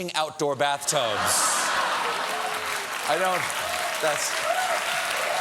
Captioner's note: laughter; cheers and applause